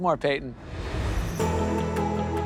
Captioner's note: air whooshes; upbeat music